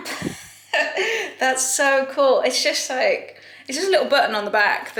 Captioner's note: chuckling